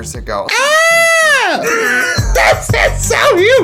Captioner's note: screaming